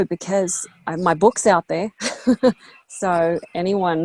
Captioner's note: chuckles